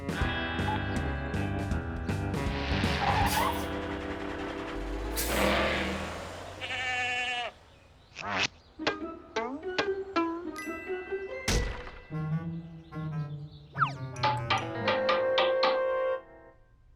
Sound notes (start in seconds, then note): 2.8 screeching; 6.6 bleating